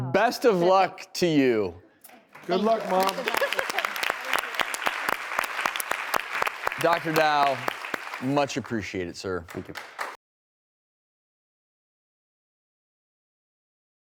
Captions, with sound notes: Best of luck to you. Good luck, mom! (audience clapping) Dr. Dow, much appreciated, sir. Thank you.